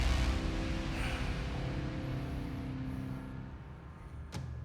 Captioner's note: sighs